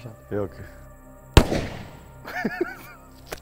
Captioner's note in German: Schuss